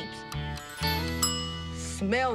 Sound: kitchen timer dinging

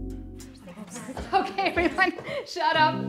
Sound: class mumbling

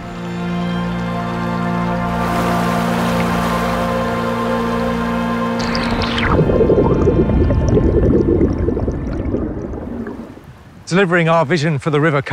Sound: river sounds above and under water

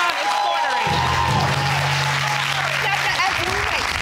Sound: audience cheers

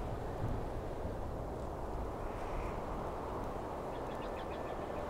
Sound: air rushing

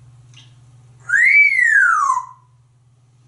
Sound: whistling

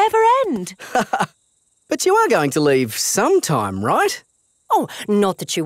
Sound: laughs

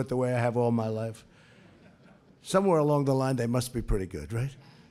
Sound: laughter

